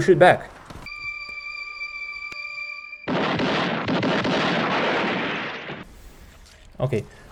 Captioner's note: Western quick draw but with p2016 sound